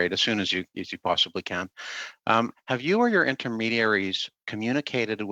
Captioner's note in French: voix de l'interprète